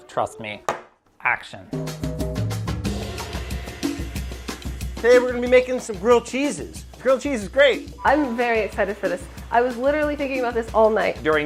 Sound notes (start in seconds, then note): 0.9 tapping; 1.9 drums playing